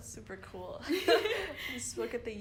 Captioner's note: laughing